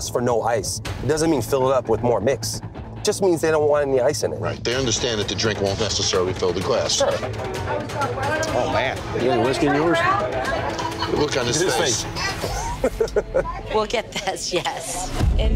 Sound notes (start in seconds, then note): 12.6 laughing